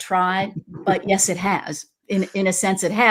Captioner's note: laughs